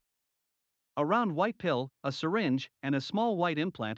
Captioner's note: voiceover